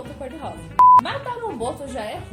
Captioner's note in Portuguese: bip